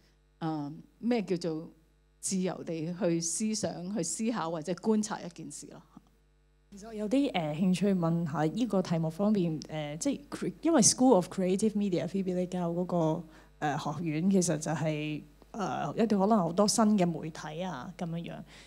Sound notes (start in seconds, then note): 7.3 Cantonese